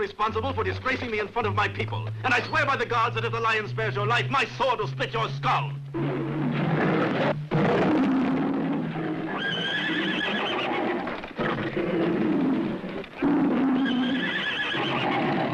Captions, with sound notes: - You were also responsible for disgracing me in front of my people, and I swear by the gods that if the lion spares your life, my sword will stick your skull. (lion roaring) (horses neighing)